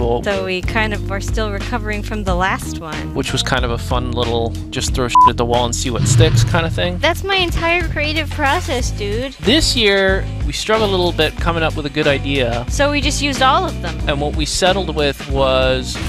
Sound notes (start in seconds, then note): 5.9 SFX: explosion